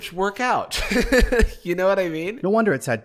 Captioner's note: laughs